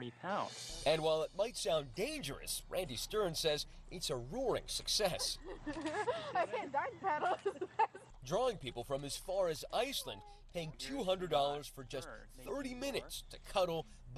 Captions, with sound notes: CAN DO IT IN FLORIDA. YOU CAN ONLY INTERACT WITH TE TIGER UNTIL THEY'RE 40 POUNDS. AND WHILE IT MIGHT SOUND DANGEROUS, RANDY STERN SAS IT'S A ROARING SUCCESS. [ LAUGHTER ] OKAY, THAT'S BETTER!